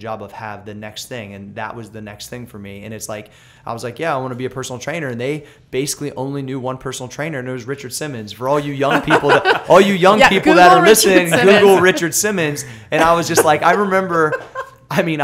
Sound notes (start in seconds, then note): 8.7 laughter; 12.9 laughs